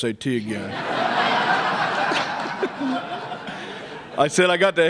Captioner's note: laughter